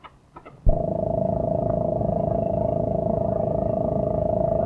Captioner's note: engine chugging